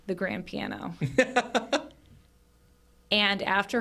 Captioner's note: chuckles